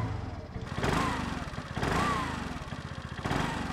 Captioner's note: engine rattling